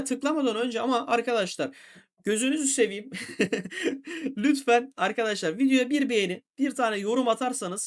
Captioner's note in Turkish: kahkaha